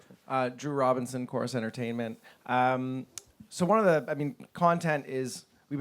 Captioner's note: voiceover